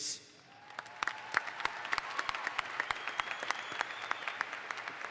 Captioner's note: audience applauds